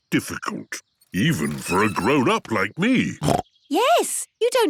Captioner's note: snorts